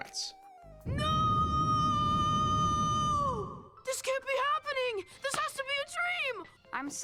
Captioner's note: screaming